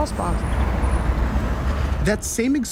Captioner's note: traffic passing